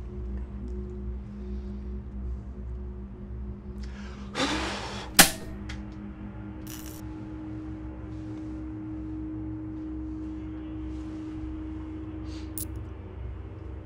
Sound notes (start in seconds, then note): 5.2 power cuts out; 6.6 electrical hum; 12.6 coins clang